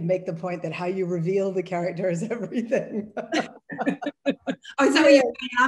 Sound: laughs

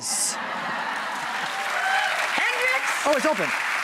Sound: crowd laughter

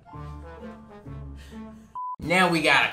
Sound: trumpet music; electronic beep

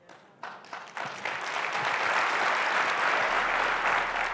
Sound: audience claps

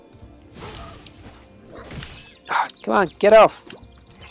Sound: dogs bark

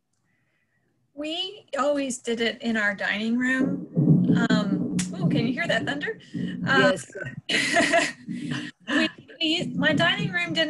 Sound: thunder Rumbles in Background

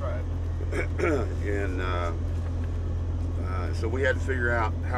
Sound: clearing voice

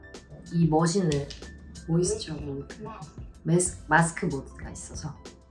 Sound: speaking in Korean

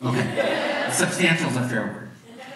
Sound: audience laughs

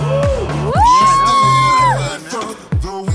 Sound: crowd yells

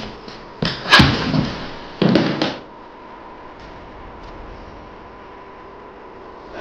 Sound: unsettling minimal music continues; shoes squeaking; body falling; Shawn groaning

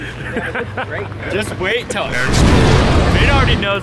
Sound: laughing; explosion sound

